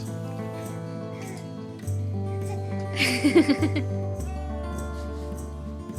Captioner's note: laughter